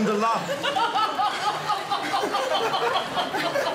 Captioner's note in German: Alle lachen